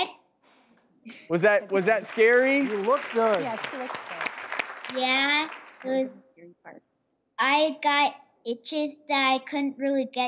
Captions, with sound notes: Was that scary? (applause) You look good. Yeah, she looks good. Yeah, I got itches that I couldn't really get to.